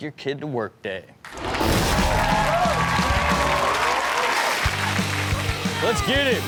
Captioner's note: audience cheering; rock music